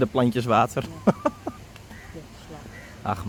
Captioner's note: sarcastic